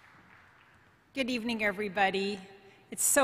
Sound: applause

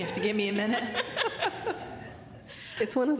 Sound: laughter

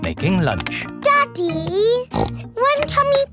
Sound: snorts

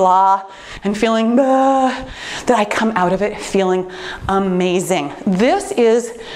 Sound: sighing

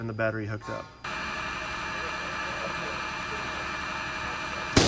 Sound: machine running

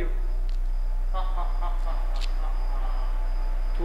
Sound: laughs

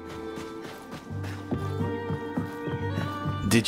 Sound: footsteps

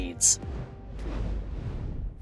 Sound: logo whooshes

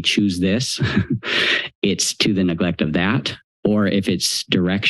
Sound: laughs

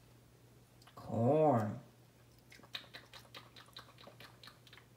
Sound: smacking sounds

